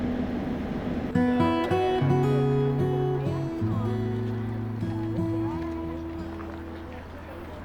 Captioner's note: melodic guitar music; group chattering